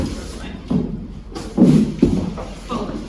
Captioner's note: rustling